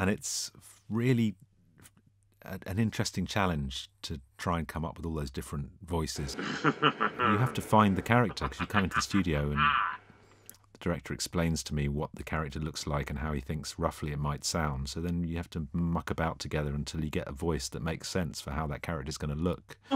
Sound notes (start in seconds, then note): 6.2 laughter